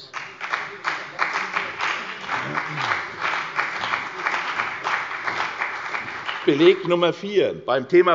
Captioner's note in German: Beifall bei der CDU und dem BÜNDNIS 90/DIE GRÜNEN